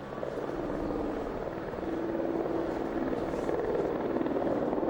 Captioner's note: helicopter chopping